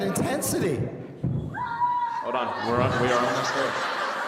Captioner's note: student screaming; audience laughing